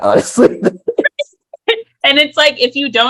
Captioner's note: laughter